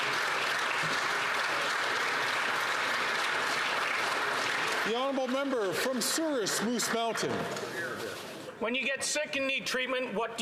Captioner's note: some Applause